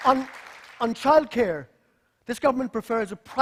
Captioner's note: applause